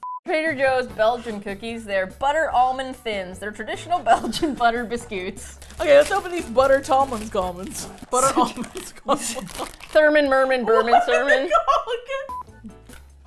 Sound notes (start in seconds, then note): 7.5 laughs; 10.5 laughing